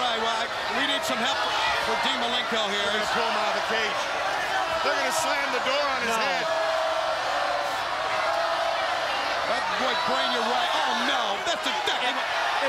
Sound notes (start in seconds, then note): 10.1 crowd chatter